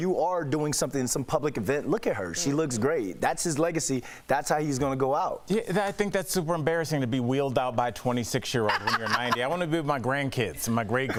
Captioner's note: laughter